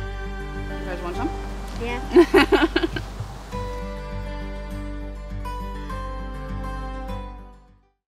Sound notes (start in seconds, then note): 2.1 chuckles; 7.1 music dies out